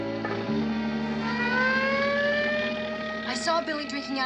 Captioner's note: siren wailing